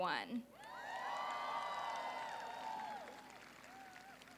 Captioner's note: applause